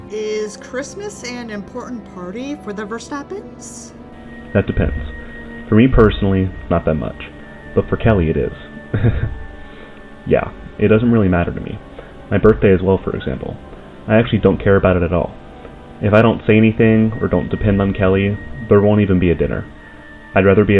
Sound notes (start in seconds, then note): 8.9 laughs